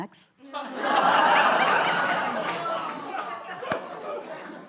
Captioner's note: laughter